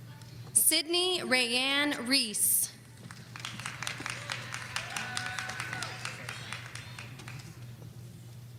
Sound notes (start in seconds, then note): 3.0 audience applauding